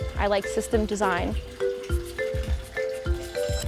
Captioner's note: running water